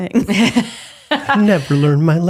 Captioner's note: laughing